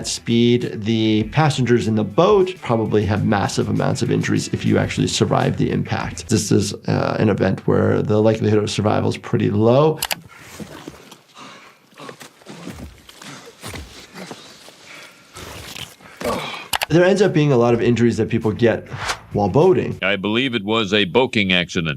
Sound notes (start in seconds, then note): 10.0 mouse clicking; 11.3 victim panting